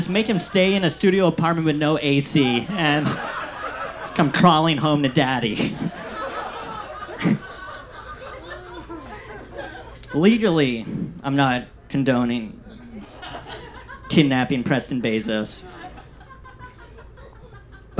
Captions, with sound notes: Just make him stay in a studio apartment with no AC and he'll come crawling home to daddy. (audience laughs) Legally, I'm not condoning kidnapping Preston Bezos,